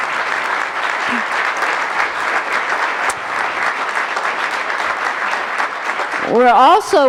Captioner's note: applause